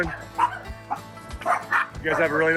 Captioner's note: dogs barking